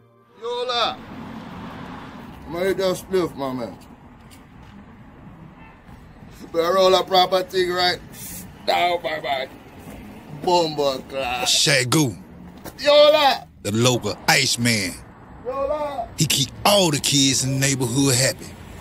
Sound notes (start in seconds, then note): 4.3 traffic noise